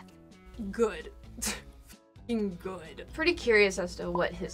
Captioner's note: laughs